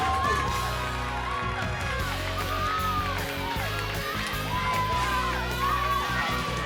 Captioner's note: crowd cheering continues; upbeat music